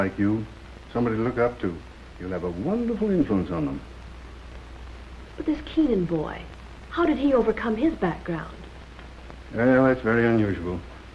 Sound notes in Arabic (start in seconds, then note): none